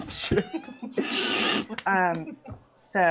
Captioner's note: laughter